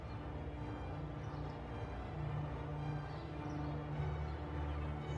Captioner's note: birds chirping